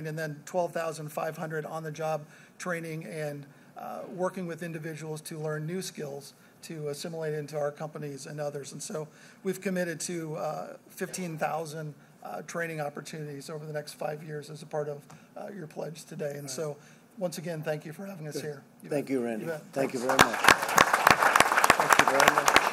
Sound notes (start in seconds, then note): 19.8 applause